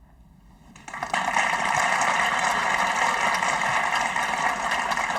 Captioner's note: audience applauding